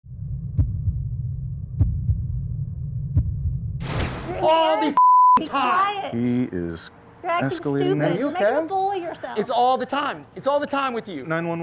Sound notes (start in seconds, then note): 0.0 beating; 0.0 whoosing